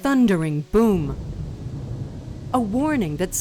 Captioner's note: thunder